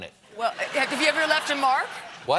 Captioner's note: laughter